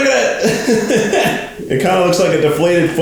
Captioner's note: laughs